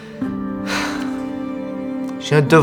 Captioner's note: sigh